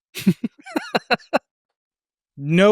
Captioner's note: laughs